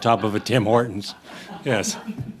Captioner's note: laughter